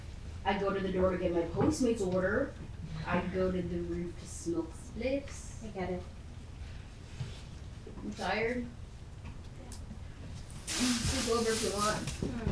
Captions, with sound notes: I go to the door to get my Postmates order. I go to the roof to smoke spliffs. - I get it. - You tired? (bag rustling) You can sleep over if you want.